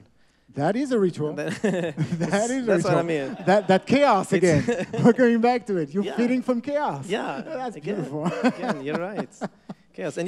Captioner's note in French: Rires